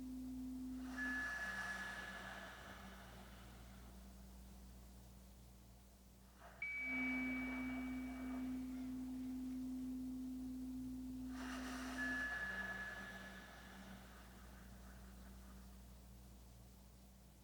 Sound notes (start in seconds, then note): 2.1 chimes ringing continues; 2.1 slow breathing continues; 12.2 chimes ringing continues; 12.2 slow breathing continues